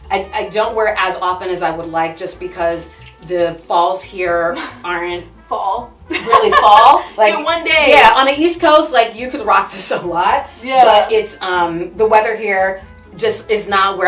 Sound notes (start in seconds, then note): 6.1 laughs